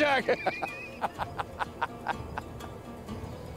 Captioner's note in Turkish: Gülme sesi